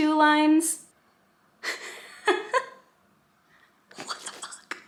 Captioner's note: laughing